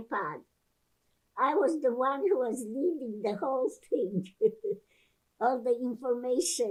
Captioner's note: laughing